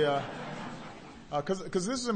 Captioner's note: laughter